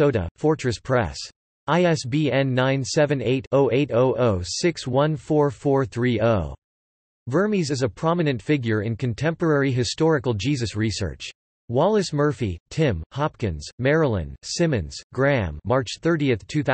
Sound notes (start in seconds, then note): 10.6 in German